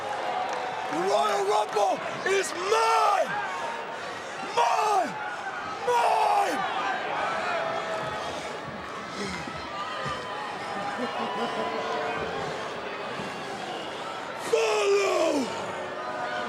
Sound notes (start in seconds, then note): 7.8 crowd yelling; 16.2 crowd booing